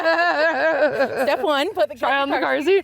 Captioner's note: laughing